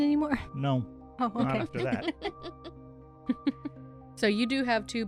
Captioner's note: laughter